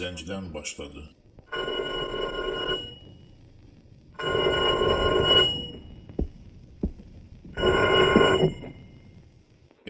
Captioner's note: phone ringing